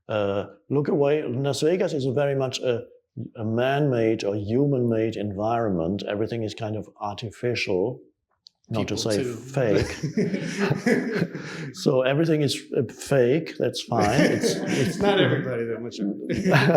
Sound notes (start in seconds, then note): 9.3 chuckles; 9.7 audience chuckling; 14.0 audience chuckles